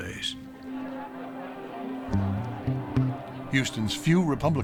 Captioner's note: people talking in background